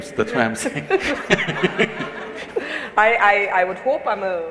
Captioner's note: laughter